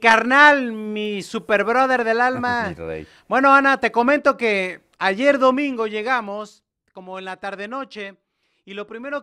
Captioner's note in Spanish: risas